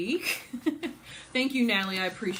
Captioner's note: laughs